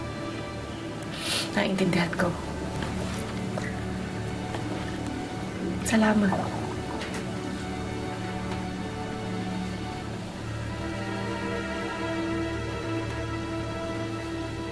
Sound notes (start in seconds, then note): 1.1 sniffles; 7.7 somber music continues